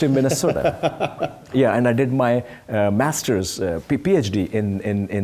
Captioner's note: laugh